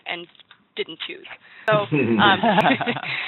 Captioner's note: laughs